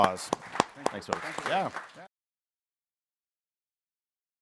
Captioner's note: applause